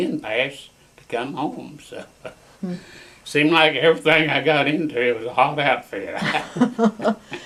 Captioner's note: laughter